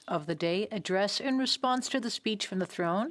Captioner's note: speaking French